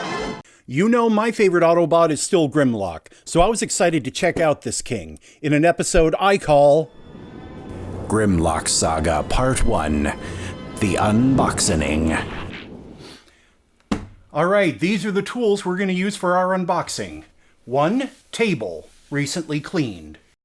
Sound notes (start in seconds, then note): 12.1 wind, distant music, transformation sound effect